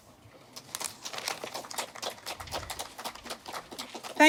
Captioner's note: aplodeja